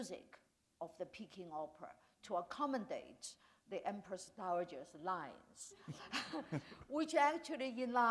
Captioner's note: chuckle